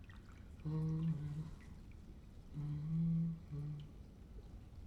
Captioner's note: humming